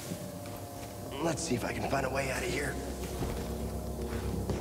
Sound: straining

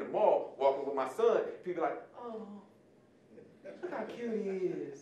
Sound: audience laughing

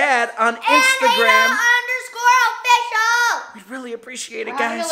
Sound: shouting

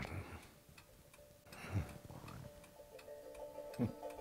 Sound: chuckles

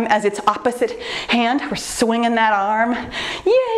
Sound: none

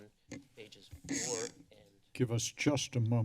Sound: mic sounds

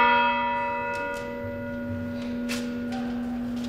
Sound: bell dinging

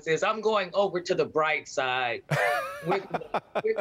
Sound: laughter

